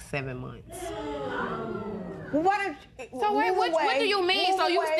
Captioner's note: spectators gasp